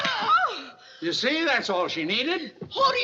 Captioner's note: gasps